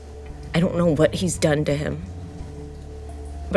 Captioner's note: none